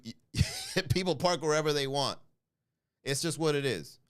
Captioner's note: laugh